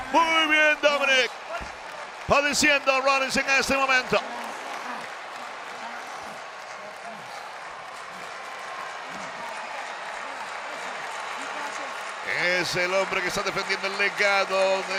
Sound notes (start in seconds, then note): 5.0 applause